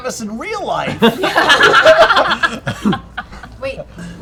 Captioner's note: laughter